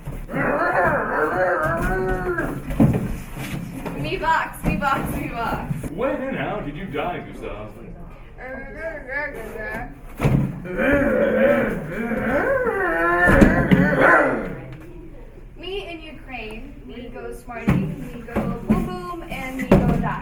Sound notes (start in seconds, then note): 0.2 Gustav speaks in Zomblish; 8.6 Translator speaks in Zomblish; 10.2 Gustav speaks in Zomblish